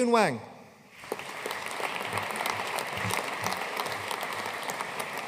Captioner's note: audience applauding